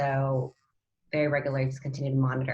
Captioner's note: audio distorts